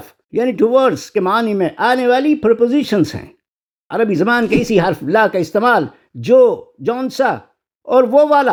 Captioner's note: nasal sound